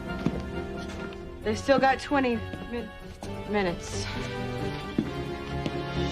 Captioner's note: sighs